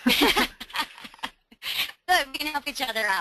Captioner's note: laughing